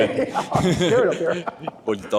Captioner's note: laughter